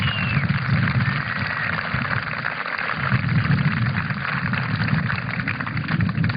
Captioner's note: applause